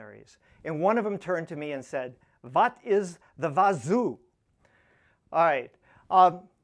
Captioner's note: german accent